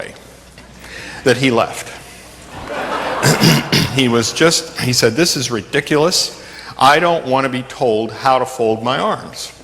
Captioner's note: laughter